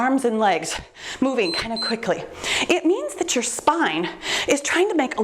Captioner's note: timer beeps